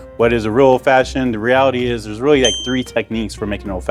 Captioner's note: bell dings